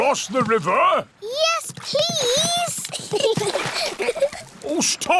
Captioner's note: giggles